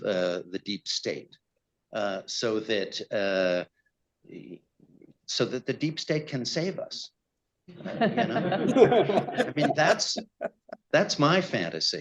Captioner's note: laughter